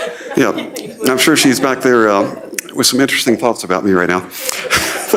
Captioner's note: laughter